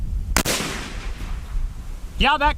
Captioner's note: gun fires